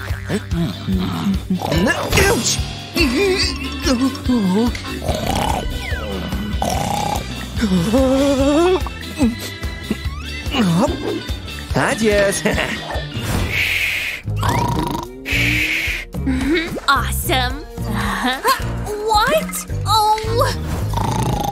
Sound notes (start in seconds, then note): 3.4 snoring; 6.6 moaning; 9.9 snoring; 18.0 snoring